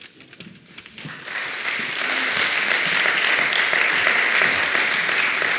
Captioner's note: applause